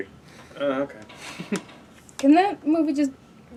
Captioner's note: laughs